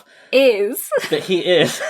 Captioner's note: laughs